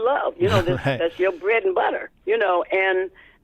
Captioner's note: laughter